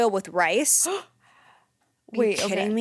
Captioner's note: gasps